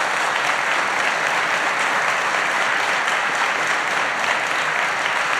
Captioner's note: applause